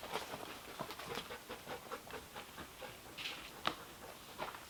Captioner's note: panting